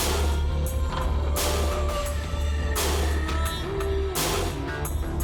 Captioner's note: electronic effects on vocalization